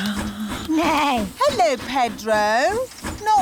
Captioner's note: neighs